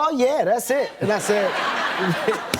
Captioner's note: laughter